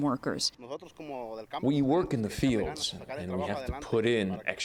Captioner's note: through translator